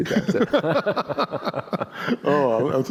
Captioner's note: laughter